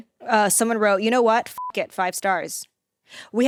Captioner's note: beep